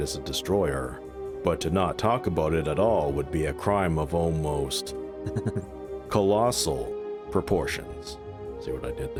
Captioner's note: snicker